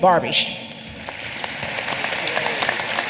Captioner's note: applause